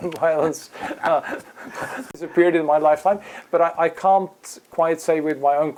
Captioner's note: laugh